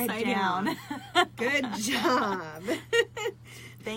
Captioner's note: laughs